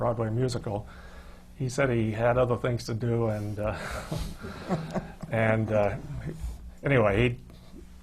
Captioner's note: laughs